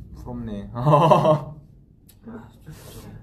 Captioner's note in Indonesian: ketawa